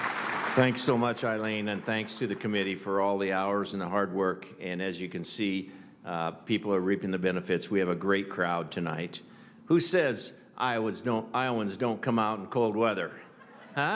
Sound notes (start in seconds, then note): 3.0 applause